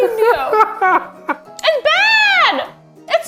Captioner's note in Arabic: يضحك إيفان